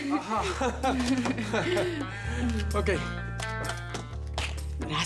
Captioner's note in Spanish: Risas